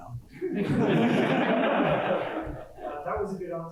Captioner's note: laughter